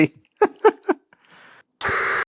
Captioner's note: laughing